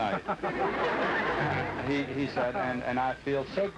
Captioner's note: laughter